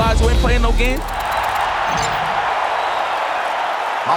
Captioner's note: crowd cheering